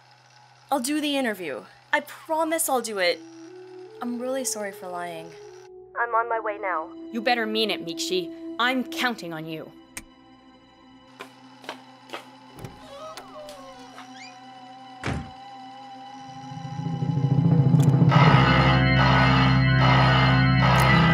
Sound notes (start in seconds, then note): 9.9 click; 18.0 alarm